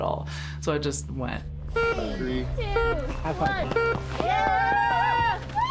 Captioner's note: crowd cheering